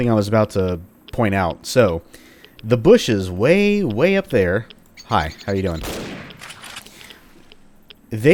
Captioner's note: bam